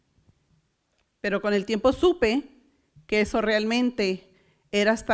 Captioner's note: foreign language